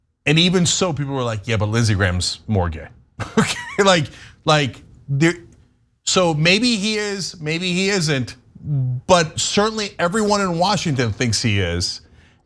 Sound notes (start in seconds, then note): 3.2 laugh